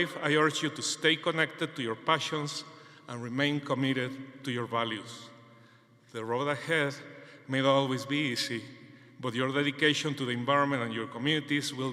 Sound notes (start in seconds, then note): none